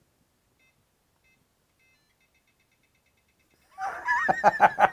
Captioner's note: powerbolt beeping; laughing